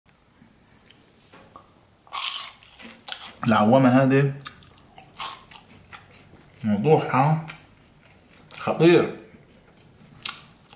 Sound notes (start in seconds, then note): 2.0 Crunchy sounds